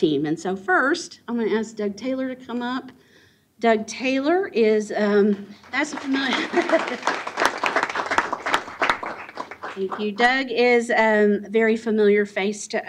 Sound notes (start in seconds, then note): 5.6 applause